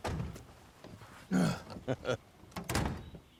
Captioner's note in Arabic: آهات سليمان، ضحك كيسي; الأبواب تغلق